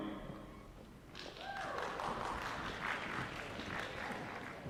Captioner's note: applause